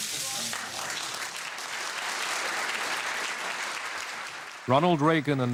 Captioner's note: applause